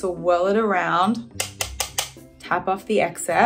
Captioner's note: brush tapping